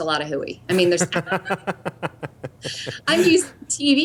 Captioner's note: laughter